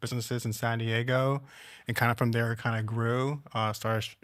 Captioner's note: none